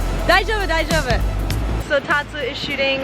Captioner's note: speaks foreign language